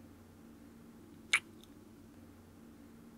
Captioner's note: kiss